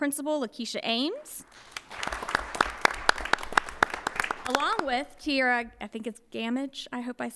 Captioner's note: applause